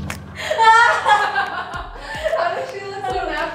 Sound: laughing

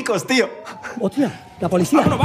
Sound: sirens

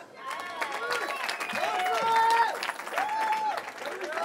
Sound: cheering

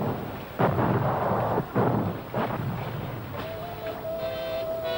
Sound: explosions booming; worrisome music

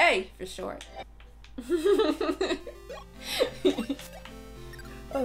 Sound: laughter

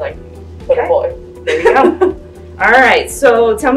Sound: laughs

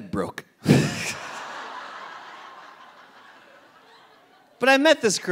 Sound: audience laughing

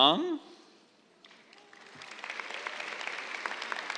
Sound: applause

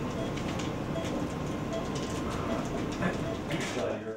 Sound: beeping machines

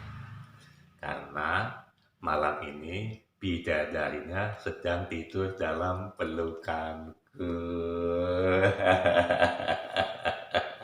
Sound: laughs

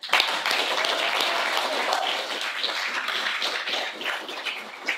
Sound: audience applauding

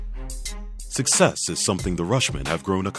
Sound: voiceover

